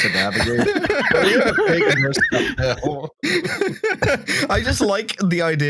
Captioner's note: laughter